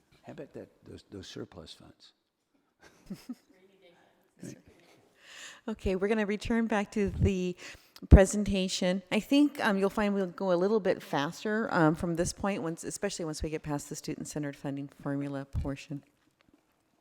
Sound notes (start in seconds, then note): 2.9 laughs; 5.0 woman speaking off screen